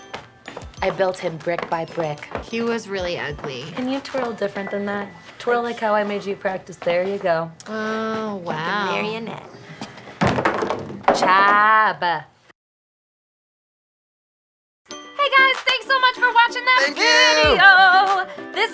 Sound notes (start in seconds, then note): 10.2 bottles thud